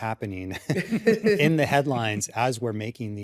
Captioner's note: laughter